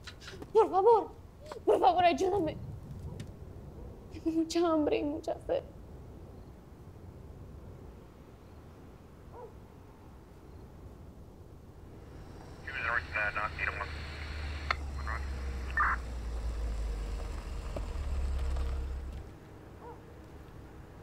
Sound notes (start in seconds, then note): 0.7 Spanish; 12.0 police radio